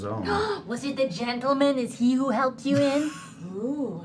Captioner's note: gasps